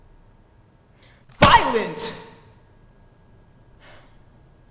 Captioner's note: yells